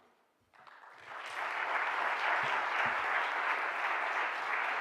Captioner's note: audience applauding